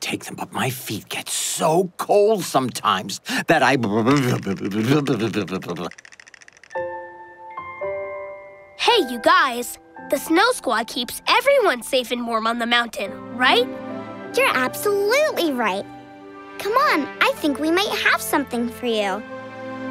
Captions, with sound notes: my feet get so cold sometimes that I-- [shivering] Hey, you guys, the snow Squad keeps everyone safe and warm on the mountain, right? You're absolutely right, come on, I think we might have something for you.